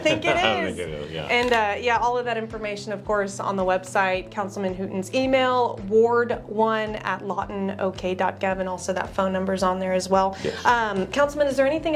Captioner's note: laughs